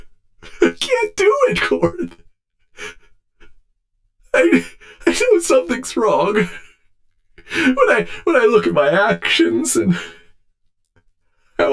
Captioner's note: sobbing